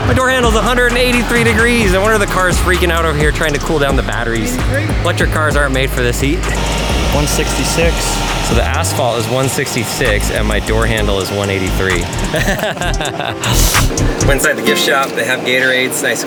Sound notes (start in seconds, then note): 12.4 both laugh